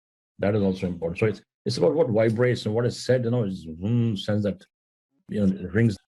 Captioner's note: hum